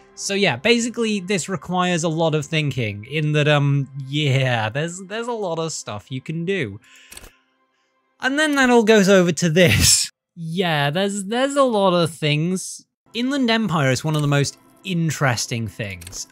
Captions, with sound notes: So basically this requires a lot of thinking in that, erm, Yeahhhh, there's- there's a lot of stuff you can do [deep breath] And then that all goes over to this [breathy laugh] Yeahhh, there's a lot of things. Inland Empire is one of the most interesting things